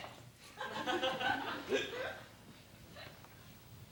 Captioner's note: laughter